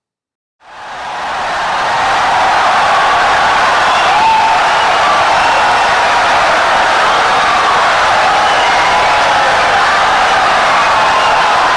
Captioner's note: wild applause and cheering for 17 seconds